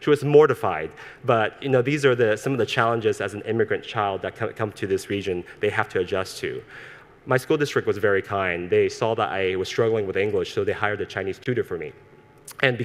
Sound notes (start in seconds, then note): none